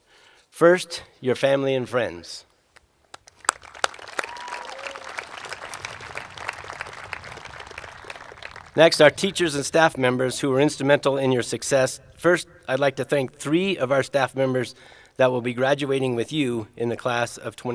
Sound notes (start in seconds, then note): 7.0 applause